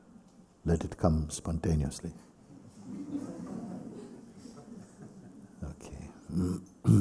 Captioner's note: laughter